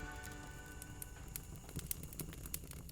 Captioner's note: fire crackling